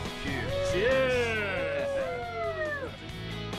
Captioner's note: all cheering